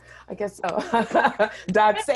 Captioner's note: laughing